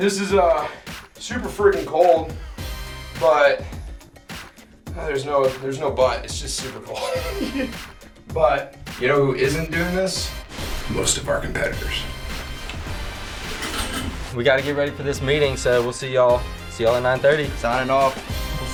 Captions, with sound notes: - This is super freaking cold but, there's no but, it's just super cold. (laughing) But you know who isn't doing this? Most of our competitors. - We gotta get ready for this meeting so we'll see y'all, see y'all at 9:30. - Signing off.